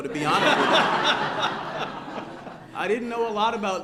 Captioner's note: laughter